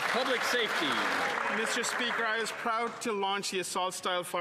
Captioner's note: applause